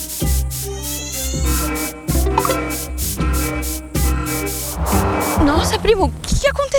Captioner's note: alarm